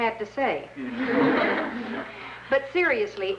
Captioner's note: mild laughter